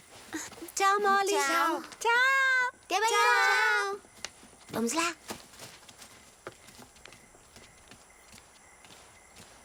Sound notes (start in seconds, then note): 5.6 crickets chirping